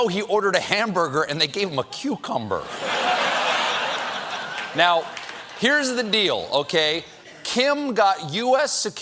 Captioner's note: laughter